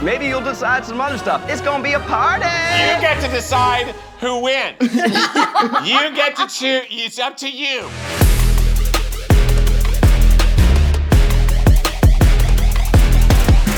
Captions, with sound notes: Maybe you'll decide some other stuff. It's going to be a party! - You get to decide who wins! (all laughing) You get to choose! It's up to you! (upbeat electronic music)